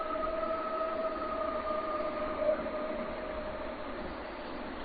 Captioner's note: creature continues howling